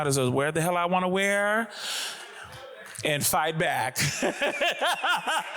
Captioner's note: laughs